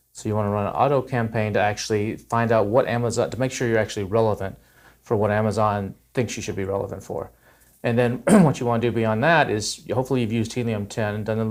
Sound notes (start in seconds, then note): 8.2 clears throat